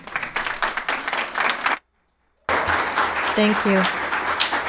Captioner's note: audience clapping hands